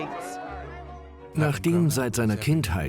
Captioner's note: voiceover